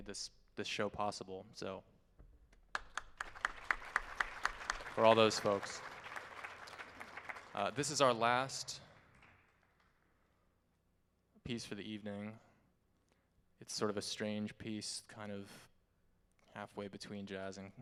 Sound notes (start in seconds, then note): 2.7 all applauding